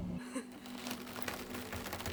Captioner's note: sealant releasing; gentle music